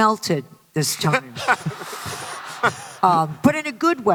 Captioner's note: laughter